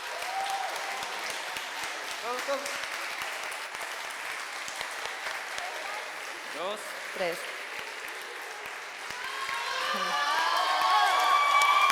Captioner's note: applause